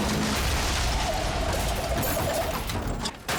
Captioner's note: tires screeching; glass shattering